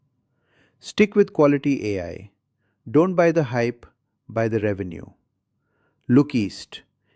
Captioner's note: sarcastic